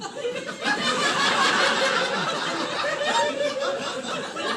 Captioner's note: laughter